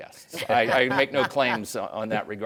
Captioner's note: guests laughing